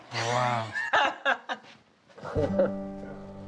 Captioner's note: laughter